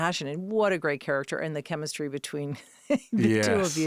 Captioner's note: laughing